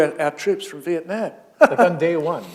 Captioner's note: chuckle